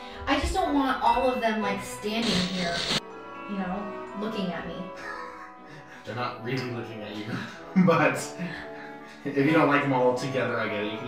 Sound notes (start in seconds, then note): 5.2 laughs; 7.2 both laughing